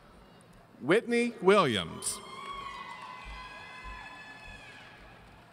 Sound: audience cheering

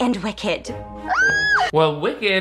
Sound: Sharpay squeals

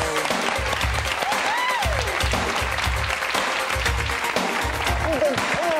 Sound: audience applauds and cheers; engaging music

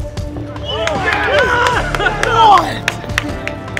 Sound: cheering

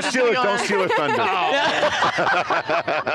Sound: everyone laughing

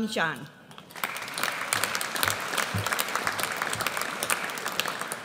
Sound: audience applauds

